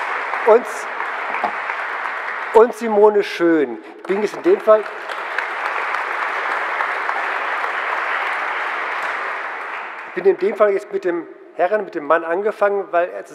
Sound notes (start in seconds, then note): 4.0 general applause